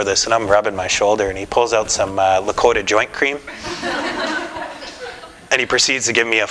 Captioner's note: laughter